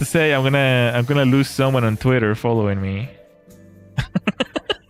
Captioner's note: laughter